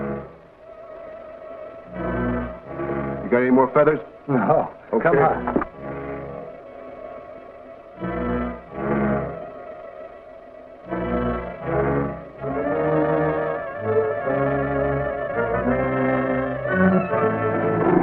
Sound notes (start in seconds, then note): 0.2 suspenseful music; 4.3 chuckling; 8.0 suspenseful music; 16.8 lever creaking